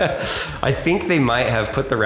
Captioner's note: laughter